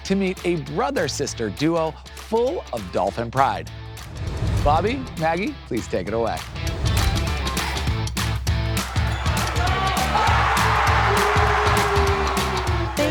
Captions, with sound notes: to meet a brother-sister duo full of Dolphin pride. Bobby, Maggie, please take it away. (upbeat music) (crowd shouting) (crowd cheering)